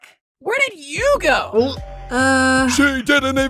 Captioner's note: gulp